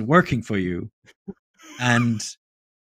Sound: laughs

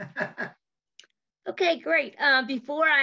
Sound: chuckles

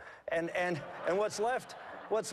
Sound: laughter

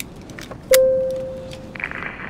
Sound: ding

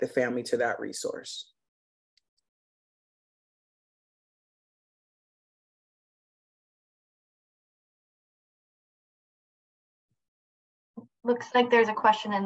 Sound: silence

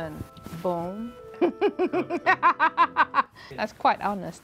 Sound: laughing

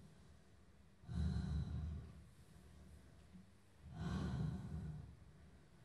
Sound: heavy breathing

